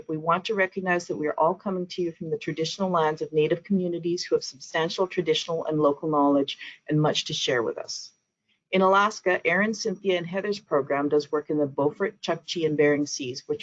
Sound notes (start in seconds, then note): none